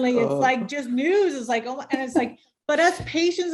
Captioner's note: laughing